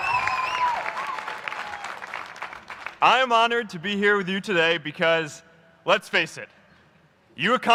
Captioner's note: applause